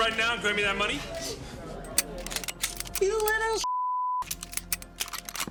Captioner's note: guns cocking